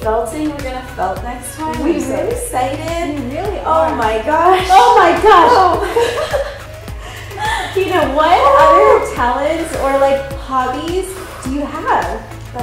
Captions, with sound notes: - Felting we're gonna felt next time. - We really - I'm so excited! - We really are. - Oh my gosh. - Oh my gosh. - Oh! (both laughing) - Kina, what other - Ooh! - talents or like hobbies do you have?